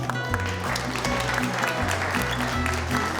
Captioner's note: applause